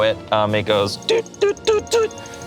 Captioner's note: imitates beeping